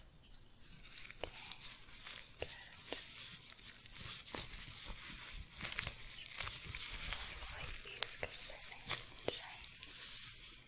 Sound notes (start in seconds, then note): 0.6 glove sounds, shuffling